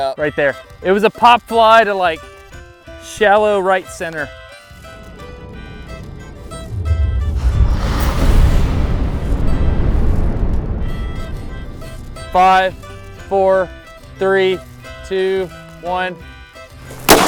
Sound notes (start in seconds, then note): 7.5 slow motion firing; 17.0 bat fires